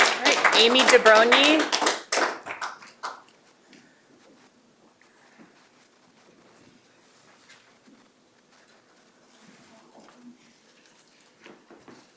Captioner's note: applause